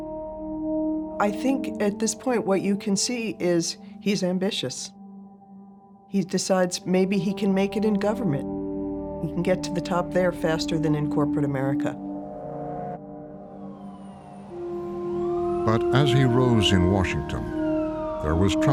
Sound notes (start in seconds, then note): 15.1 siren blaring